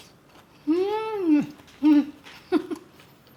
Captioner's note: laughs